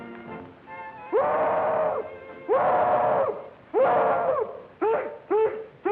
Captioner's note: hollering